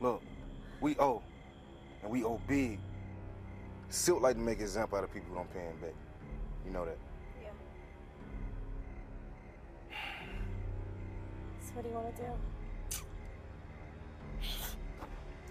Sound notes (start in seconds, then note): 9.9 Malik sighs; 14.4 sniffles